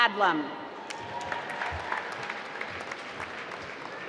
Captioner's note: applause